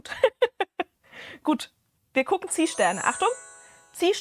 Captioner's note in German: gelächter